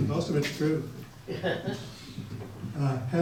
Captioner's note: laughter